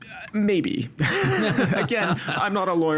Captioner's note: both laughing